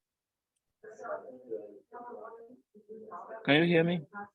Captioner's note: group muffled chattering